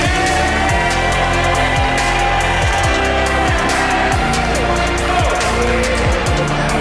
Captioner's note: yelling